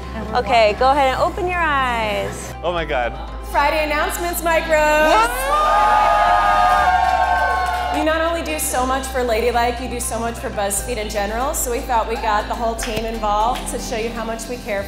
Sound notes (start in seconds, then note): 5.0 crowd cheering